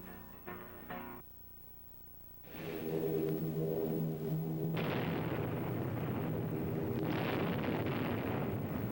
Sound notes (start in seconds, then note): 2.5 plane engines roaring; 2.8 bombs exploding